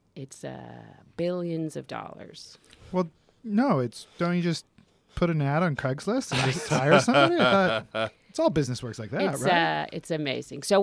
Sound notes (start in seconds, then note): 6.3 laugh